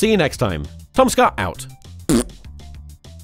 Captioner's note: fart